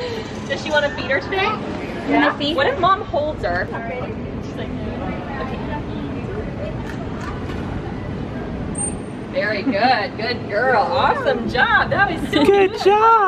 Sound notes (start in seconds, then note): 8.2 whistle